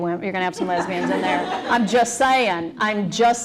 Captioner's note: laughter